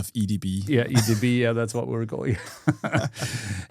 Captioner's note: laughing